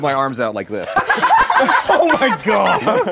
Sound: laughing

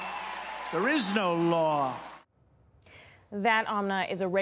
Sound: cheering and applause

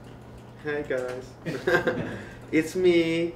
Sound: giggles

